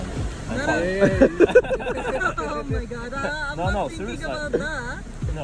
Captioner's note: laughing